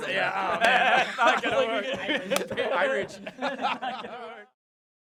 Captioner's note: laughter; laughter and teasing; silence